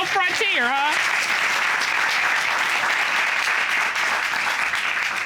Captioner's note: applause